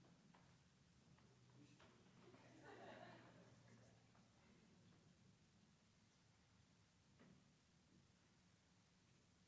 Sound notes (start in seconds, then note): 2.4 attendees laughs